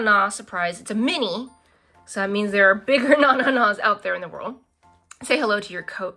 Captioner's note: laughs